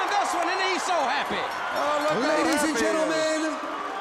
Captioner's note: bell ringing